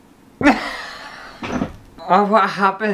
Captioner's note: hysterical Laughter